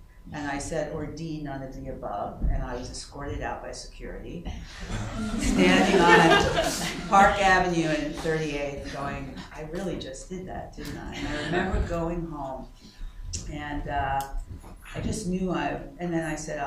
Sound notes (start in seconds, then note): 4.7 laughter